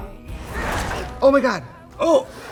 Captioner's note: whooshing